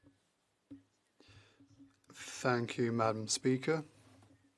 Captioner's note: speaking French